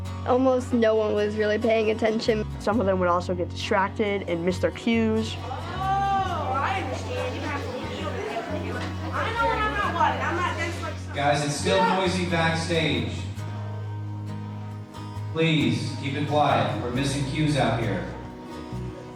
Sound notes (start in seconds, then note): 7.2 overlapping indistinct chatter